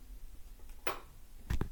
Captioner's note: click